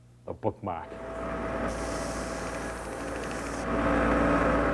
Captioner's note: sanding